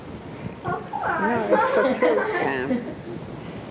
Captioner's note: laughing